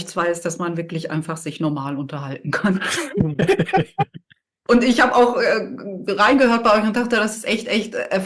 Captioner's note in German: gelächter